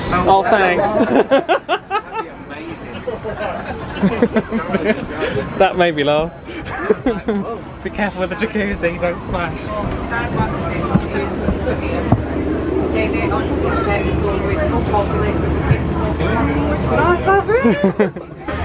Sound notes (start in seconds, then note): 4.2 commuters laughing; 10.2 commuters chatting indistinctly